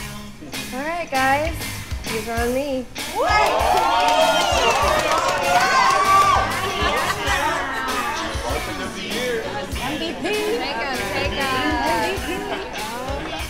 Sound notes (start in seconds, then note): 3.1 group cheering; 4.9 group chattering